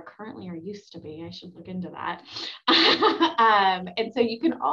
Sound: laughs

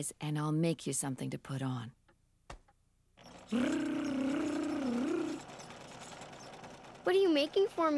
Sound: imitating sewing machine

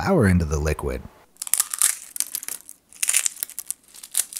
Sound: crunching

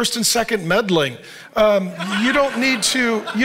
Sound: audience laughing

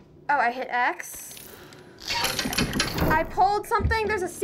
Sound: creak

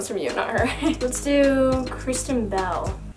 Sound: laughs

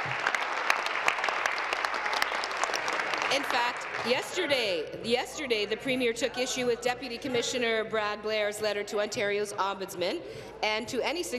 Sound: applause

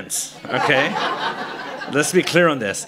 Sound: laughter

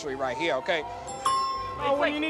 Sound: ding

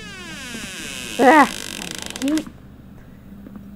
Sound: door opens

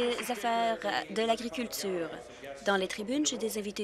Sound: applause

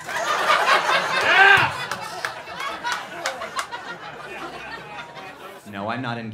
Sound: laughing and cheering

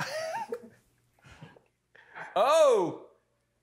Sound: laughing

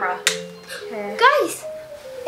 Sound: magnet clanks

